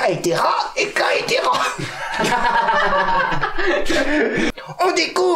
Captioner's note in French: Rires